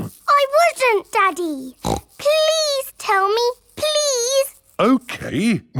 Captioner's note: snorts